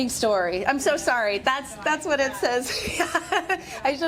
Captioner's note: laughs